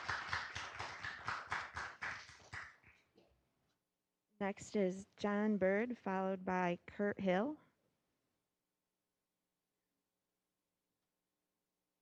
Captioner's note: applause